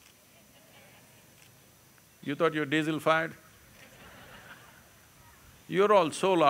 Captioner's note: laughter